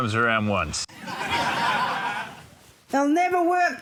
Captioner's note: laughter